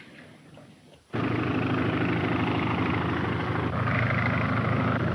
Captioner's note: plane engine rumbling